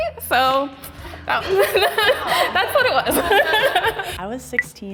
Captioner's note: chuckles